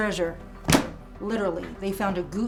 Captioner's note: book thuds